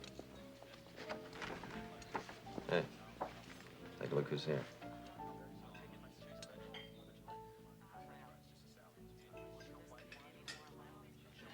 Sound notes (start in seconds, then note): 5.2 chatter